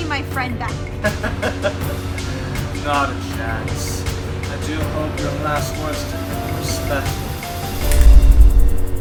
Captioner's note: laughs